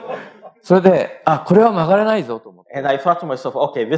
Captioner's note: speaking japanese